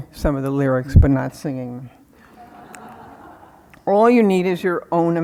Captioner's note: crowd laughing